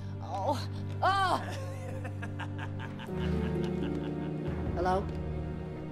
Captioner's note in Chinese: 男人笑聲